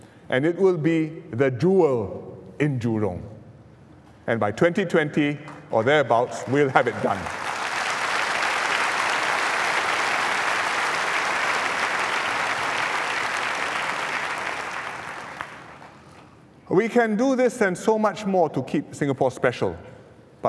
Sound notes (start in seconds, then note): 7.9 applause